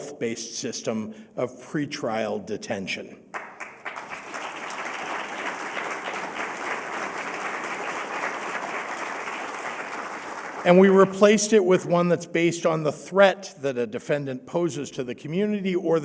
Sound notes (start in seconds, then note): 6.5 applause